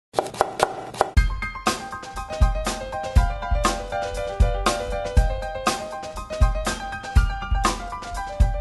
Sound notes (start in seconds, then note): 0.1 chopping sounds; 1.2 piano intro music